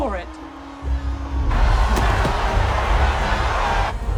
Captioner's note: crowd cheering